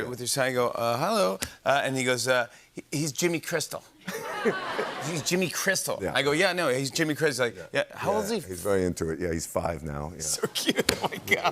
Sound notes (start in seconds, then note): 4.0 laughter